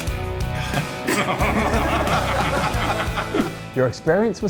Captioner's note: men laughing